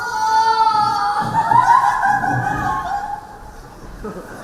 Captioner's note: stepsisters laugh